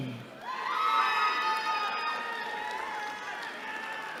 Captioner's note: cheering